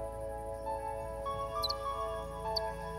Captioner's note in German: Vogelzwitschern